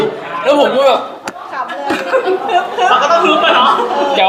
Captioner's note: trying to control his laughter